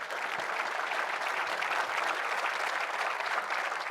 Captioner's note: audience clapping